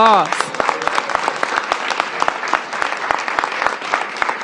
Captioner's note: applause